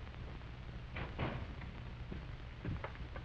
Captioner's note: door shuts